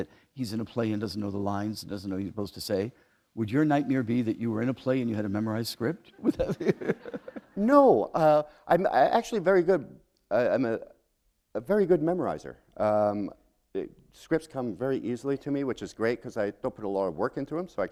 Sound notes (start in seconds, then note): 6.2 laughter